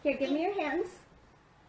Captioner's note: none